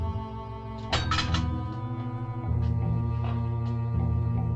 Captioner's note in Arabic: صوت قعقعة الأنابيب